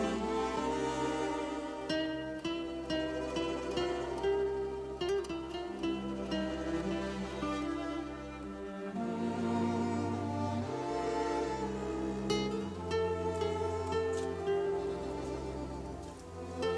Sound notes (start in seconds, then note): none